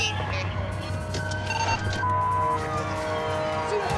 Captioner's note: radio chirps